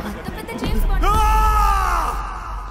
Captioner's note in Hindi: चिल्लाती है